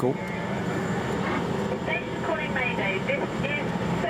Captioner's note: radio